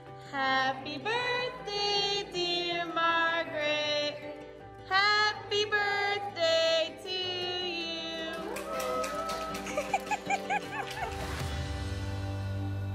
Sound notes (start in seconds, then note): 8.2 people applaud; 8.3 people cheer; 9.4 woman laughs